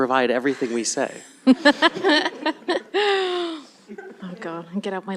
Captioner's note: laughter